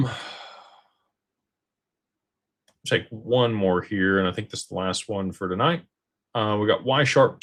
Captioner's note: sighs